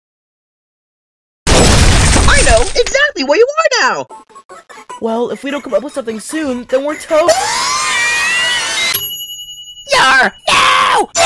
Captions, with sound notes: I know exactly where you are now! I know exactly where you are now! Well, if we don't come up with something soon, then we're TOAST. Well, if we don't come up with something soon, then we're TOAST. (DEMONIC SCREECHING) (STICKY SCREAMING) (DEMONIC SCREECHING) (STICKY SCREAMING) (ding!) (ding!) YARRRH, NOOO! YARRRH, NOOO! YARRRH, NOOO!